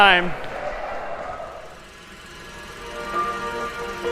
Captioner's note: projector clicking